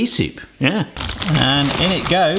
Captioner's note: packet crackles